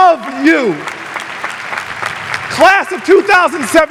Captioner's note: audience applauding